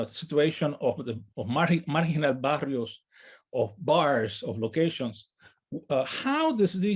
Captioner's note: speaks in native language